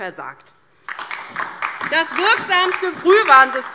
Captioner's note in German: Beifall DIE LINKE und SPD